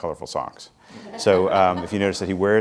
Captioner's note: laughing